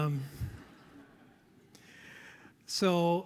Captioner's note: audience laughs